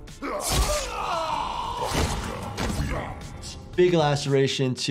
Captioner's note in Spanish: Superman gritando